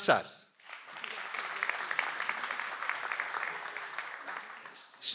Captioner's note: audience applauds